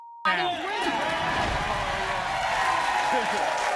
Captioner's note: audience cheers